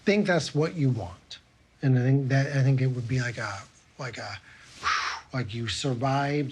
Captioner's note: blows